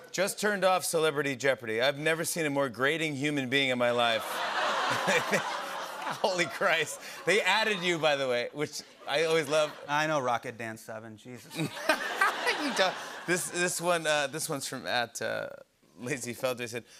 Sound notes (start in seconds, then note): 11.5 laughter